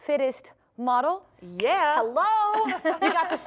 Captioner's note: laughter